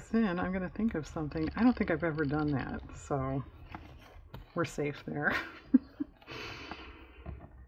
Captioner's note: laughs